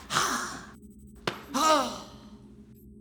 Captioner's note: Nicola Furia moans in pain